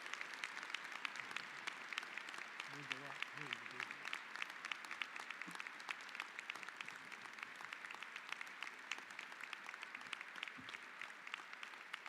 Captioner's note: applause